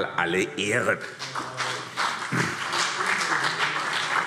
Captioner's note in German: Beifall CDU und BÜNDNIS 90/DIE GRÜNEN